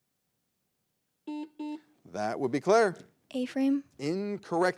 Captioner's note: button blips